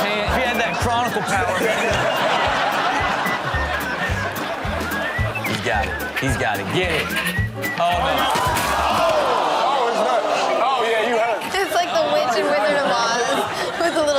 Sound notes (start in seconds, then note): 2.6 audience laughs; 7.9 audience groans